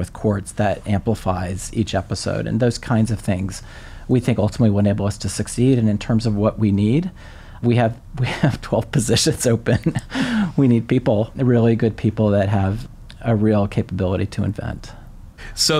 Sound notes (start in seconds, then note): 9.7 laughs